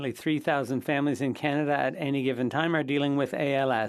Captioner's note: speaking French